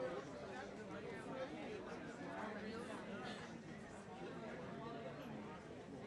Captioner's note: attendees continue chatting